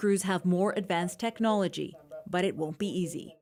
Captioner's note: speaking alternate language